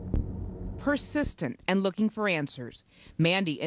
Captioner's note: voiceover